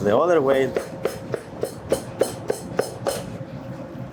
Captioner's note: knife chops